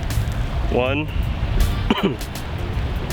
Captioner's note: cough